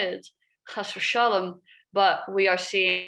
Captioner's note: speaks a foreign language